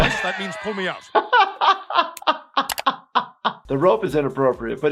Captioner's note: laughs